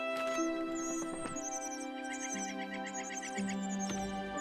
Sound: chirping

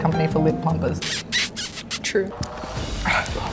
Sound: kissing sound

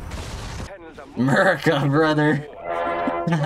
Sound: chuckles

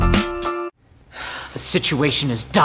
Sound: sigh

